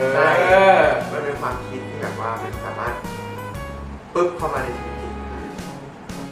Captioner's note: poof